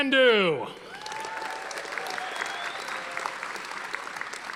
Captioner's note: audience applauding